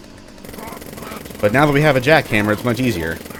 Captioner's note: jackhammer carnage